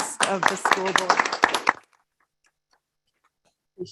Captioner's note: applause